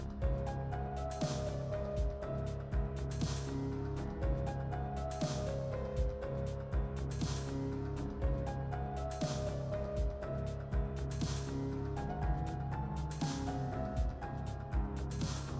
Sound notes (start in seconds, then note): none